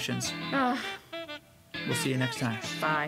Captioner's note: sighs